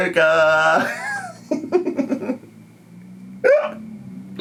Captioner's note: laughs